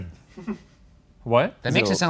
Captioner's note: man laughs